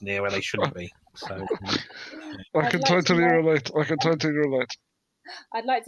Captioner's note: chuckle